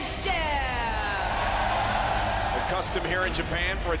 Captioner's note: crowd cheering